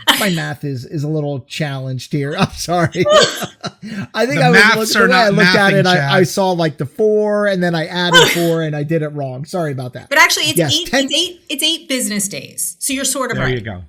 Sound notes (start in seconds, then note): 2.3 laughs